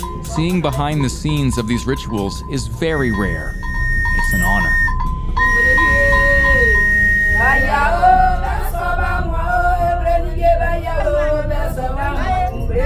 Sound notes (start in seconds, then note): 5.5 whistle blaring; 7.2 women chanting